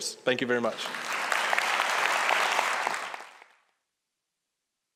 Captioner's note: applause